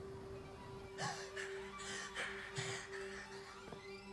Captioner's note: panting